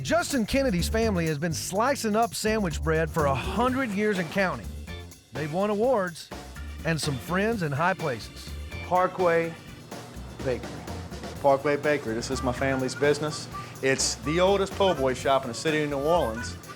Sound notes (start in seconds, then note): none